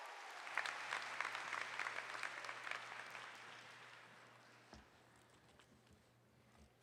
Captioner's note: applause